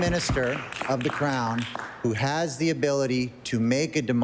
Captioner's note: applause